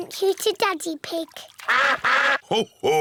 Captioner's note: all quack